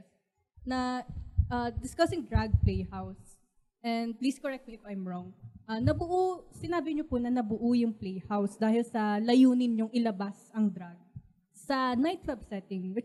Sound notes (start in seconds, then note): none